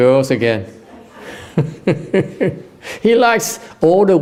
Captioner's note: laughter